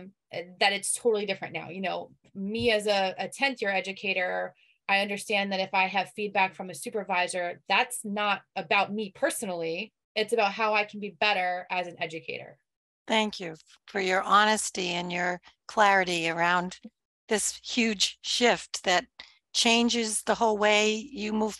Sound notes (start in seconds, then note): none